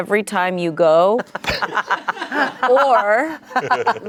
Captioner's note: everyone laughs